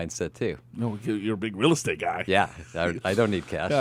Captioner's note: laughs